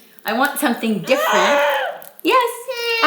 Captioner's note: vocalizing